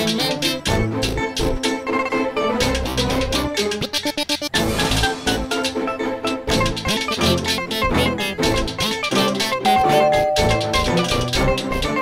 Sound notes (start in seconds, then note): 9.6 doorbell ringing